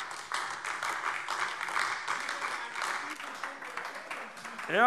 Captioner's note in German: Beifall AfD